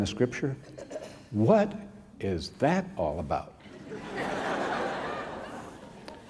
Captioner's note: laughter